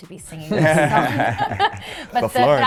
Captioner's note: laughter